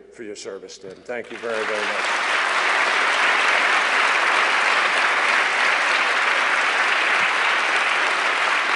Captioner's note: applause